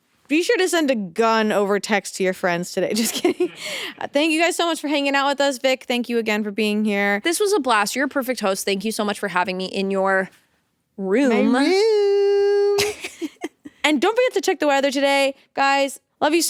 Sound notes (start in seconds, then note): 12.8 both chuckle